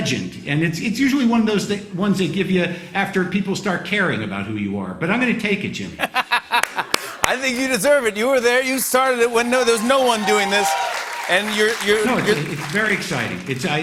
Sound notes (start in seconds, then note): 5.9 laughter; 9.2 cheers and applause